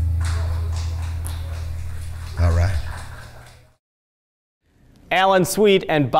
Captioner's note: audience applauding